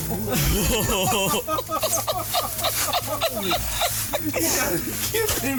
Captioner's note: men laughing